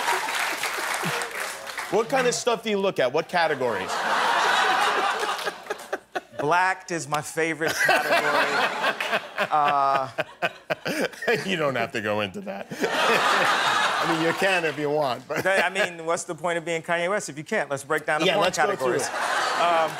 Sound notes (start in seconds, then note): 0.0 laughter; 4.2 cheers and applause; 8.7 laughter; 18.4 laughter